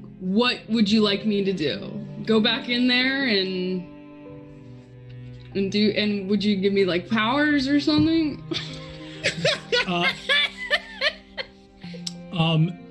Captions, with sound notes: What would you like me to do, go back in there, and would you gimme, like, powers or something? (group laughs)